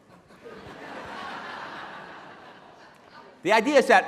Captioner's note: laughing